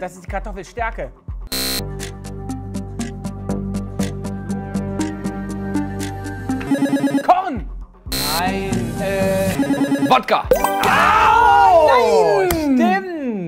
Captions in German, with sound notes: Das ist Kartoffelstärke. (Angespannte Musik) (Buzzer) Nein! Wodka. Nein! - Stimmt.